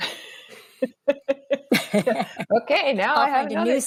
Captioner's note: laughter